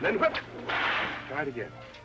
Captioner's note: cracking whip